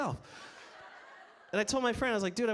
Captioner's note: audience laughs